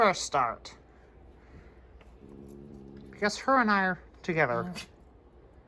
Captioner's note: growls